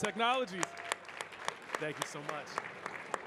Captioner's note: audience cheering and clapping